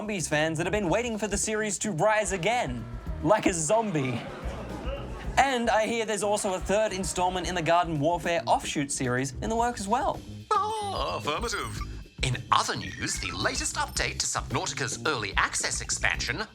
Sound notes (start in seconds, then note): 2.7 murmuring